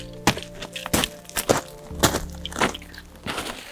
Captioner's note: footsteps thudding